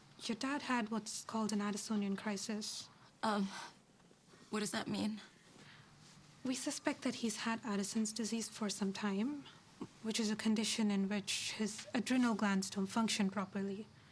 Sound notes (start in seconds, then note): none